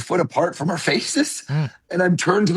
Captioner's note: chuckles